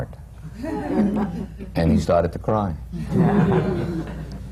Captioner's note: laughter